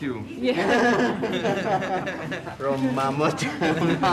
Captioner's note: crowd laughing; speaking in foreign language